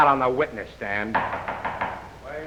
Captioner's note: gavel banging